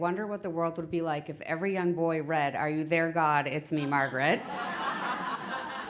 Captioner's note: laughter